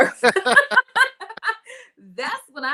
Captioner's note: laughing